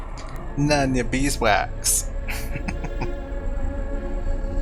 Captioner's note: chuckling